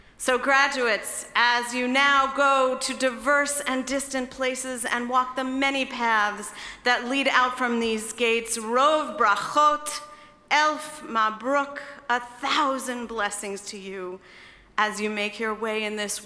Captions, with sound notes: So graduates, as you now go to diverse and distant places and walk the many paths that lead out from these gates, (speaking in foreign language). A thousand blessings to you as you make your way